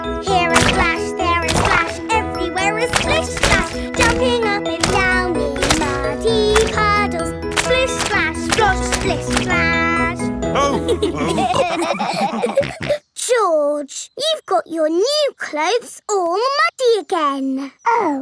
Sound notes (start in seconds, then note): 10.6 all laughing